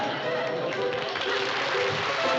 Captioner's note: applause